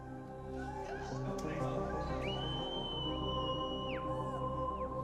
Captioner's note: people shouting